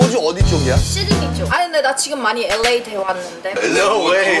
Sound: LA-like pronunciation

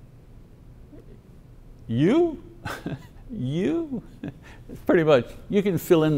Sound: laughs

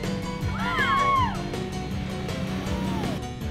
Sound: cheering

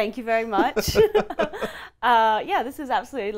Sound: laughs loudly

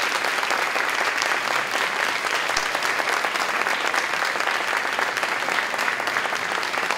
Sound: applause, cheering

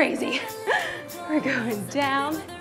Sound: laughing

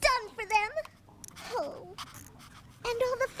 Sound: whimpers

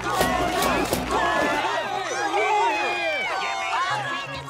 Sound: clamoring

